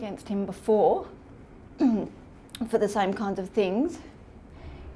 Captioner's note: clears throat nervously